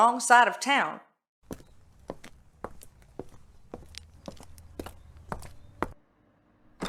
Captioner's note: sound of walking then door opening